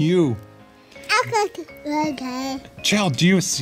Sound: mumbles

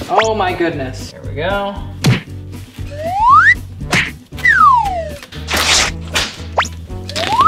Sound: sound effects

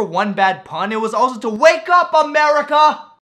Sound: yelling

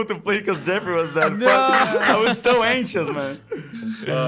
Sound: laughs

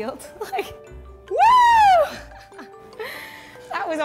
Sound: laughs

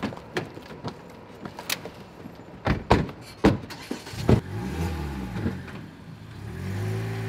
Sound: doors slamming, car driving away

